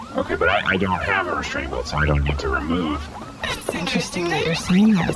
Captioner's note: hushed